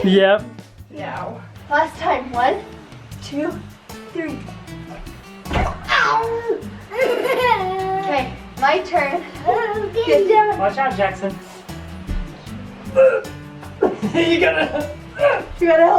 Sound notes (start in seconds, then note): 6.0 laughing; 12.9 grunting